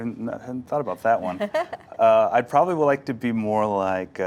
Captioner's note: laughs